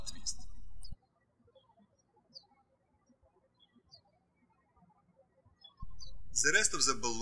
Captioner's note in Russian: птички щебечут